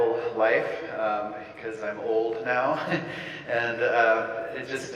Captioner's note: laughs